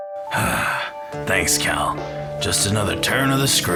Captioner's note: sighs